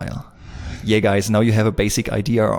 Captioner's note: air wooshing